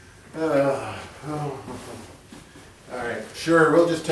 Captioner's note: sighs